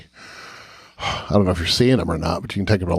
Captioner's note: sighs